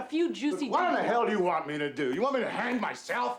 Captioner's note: yelling